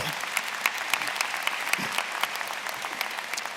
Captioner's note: applause